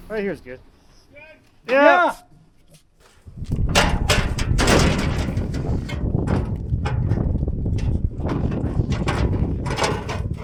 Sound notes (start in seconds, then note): 3.2 wind blowing